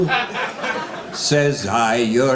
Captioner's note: audience laughing